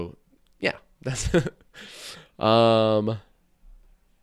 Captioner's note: chuckles